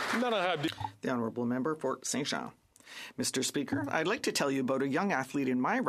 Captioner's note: applause